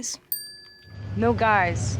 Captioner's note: graphic chiming